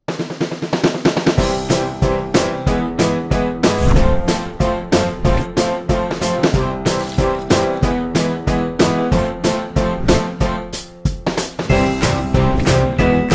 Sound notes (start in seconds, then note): 0.2 energetic light rock music; 6.9 coffee liquid slurping